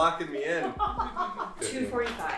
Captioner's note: laughs